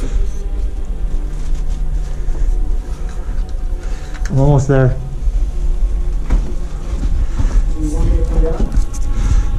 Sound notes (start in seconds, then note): 0.0 heavy breathing; 0.1 scraping; 6.4 shuffling and banging